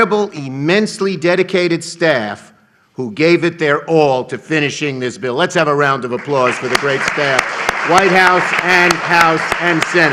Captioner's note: applause